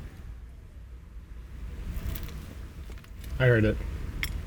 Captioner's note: light crunching